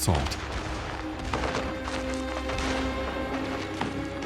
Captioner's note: gunfire